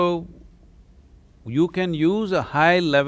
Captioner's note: none